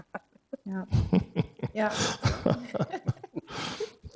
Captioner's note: laughing